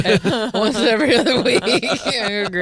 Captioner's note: laughing